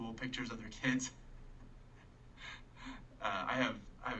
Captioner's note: chuckling